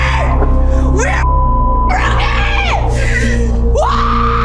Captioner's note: beep